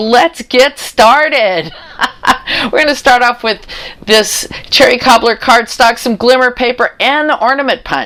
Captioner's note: laughter